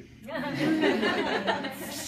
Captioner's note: audience laughs